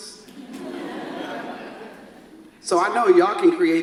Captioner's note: audience laughs